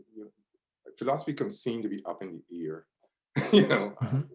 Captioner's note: laughs